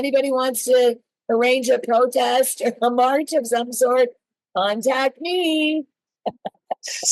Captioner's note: laughs